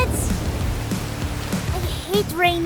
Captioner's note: rain falling